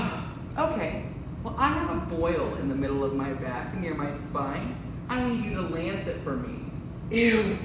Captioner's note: sighs